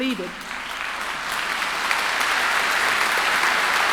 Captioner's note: mass applause